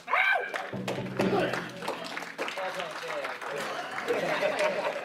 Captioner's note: clapping and cheering